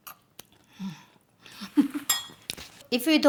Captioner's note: laughs